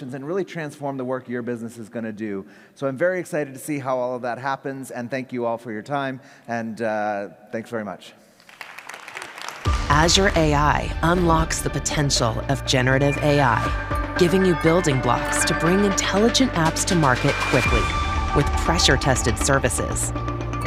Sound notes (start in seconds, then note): 8.4 audience applauds